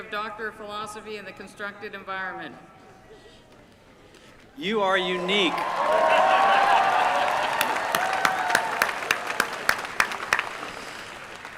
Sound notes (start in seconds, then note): 5.1 applause